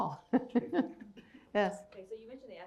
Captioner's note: chuckles